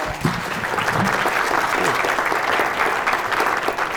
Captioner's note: applause